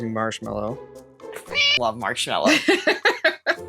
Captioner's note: meow